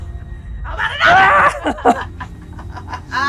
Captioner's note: shriek; maniacal laughter